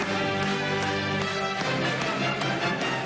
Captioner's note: applause and clapping